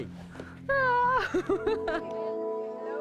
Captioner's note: nervous laughter